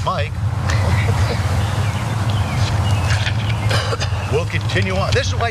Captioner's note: laugh